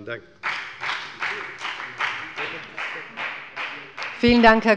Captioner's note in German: Beifall bei der FDP